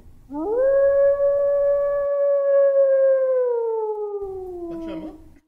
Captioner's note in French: Hurlement de loup